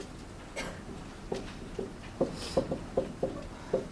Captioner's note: marker thudding